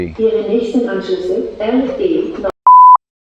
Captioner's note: announcement In German